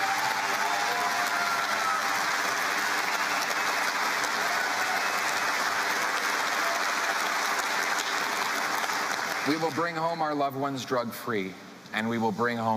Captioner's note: cheering and Applause